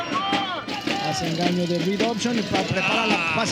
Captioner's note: Spanish